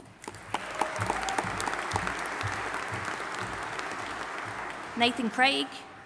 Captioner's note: audience applauding and cheering